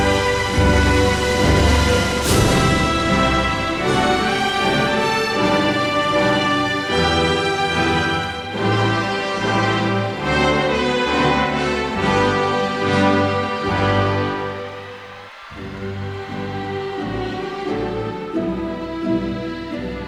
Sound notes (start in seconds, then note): 15.0 audience cheers; 16.3 stately celebratory music